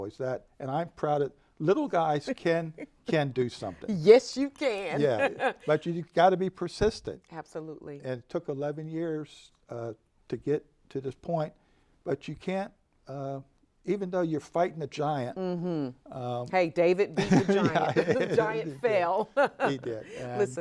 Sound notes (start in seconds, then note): 4.9 laughs; 17.1 laugh